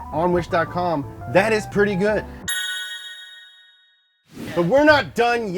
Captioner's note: dings; transition whooshes